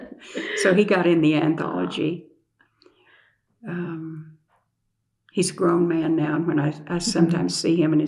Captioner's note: laughter